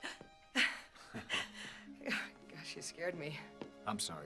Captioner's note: chuckles